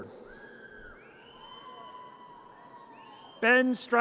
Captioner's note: audience cheers